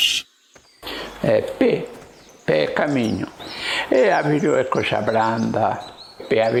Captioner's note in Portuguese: som de pássaros